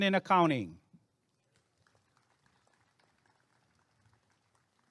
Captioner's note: applause and cheering